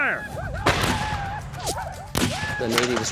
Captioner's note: gunfire